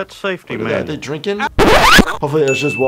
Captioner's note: record scratch